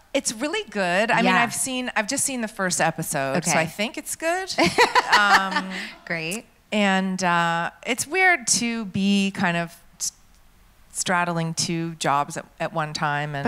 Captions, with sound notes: - It's really good, I mean, I've just seen the first episode so I think it's good. (laughs) - Great. - And, it's weird to be straddling two jobs at one time.